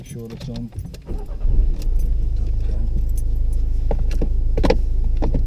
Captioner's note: car engine turns on